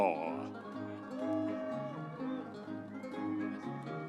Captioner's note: audience cheering